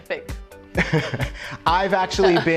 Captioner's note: laughing